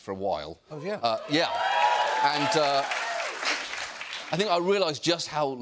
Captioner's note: cheers and applause